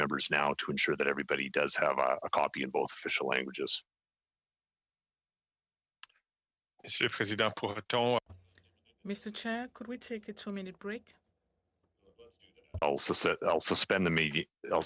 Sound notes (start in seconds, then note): 11.1 speaking French